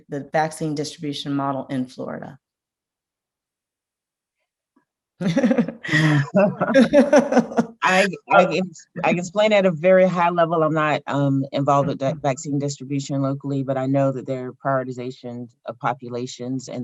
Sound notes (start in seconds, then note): 5.2 laughs